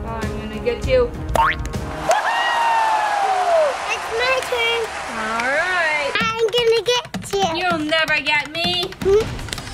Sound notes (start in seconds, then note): 1.5 bouncing; 1.9 audience cheering